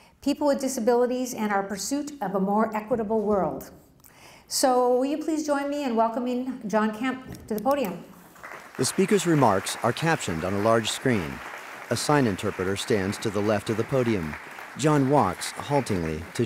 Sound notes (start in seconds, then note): 8.2 applause